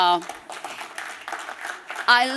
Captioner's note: applause